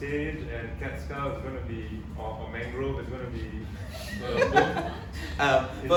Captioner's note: audience laughs